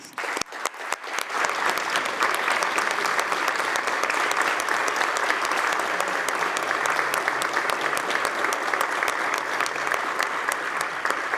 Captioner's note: applause